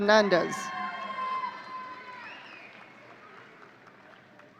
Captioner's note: audience cheering